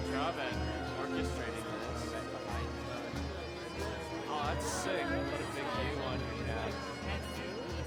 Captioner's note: chatter